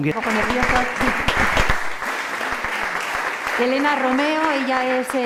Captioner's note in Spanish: aplausos